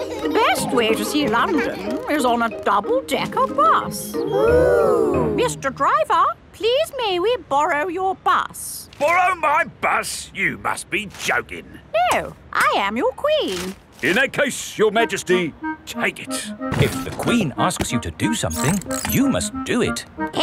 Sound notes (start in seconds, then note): 0.0 giggling; 4.3 kids gasps in awe